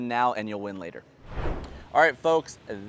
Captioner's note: air whooshing